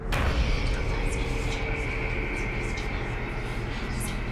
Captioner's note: whispering voices